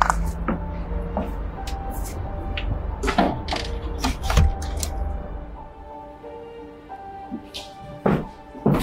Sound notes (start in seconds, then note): 2.7 footsteps; 3.0 door slamming